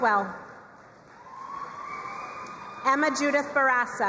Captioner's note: crowd cheering and applauding